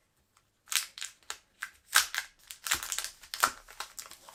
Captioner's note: plastic crinkles